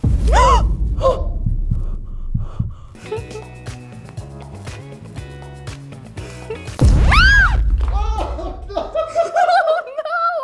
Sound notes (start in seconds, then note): 0.2 gasps; 7.0 shrieks; 8.0 laughs